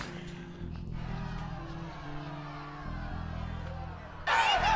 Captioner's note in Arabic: صراخ بعيد; يستمر الصراخ